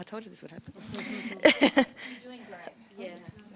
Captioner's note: laughs